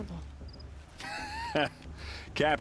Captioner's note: laughs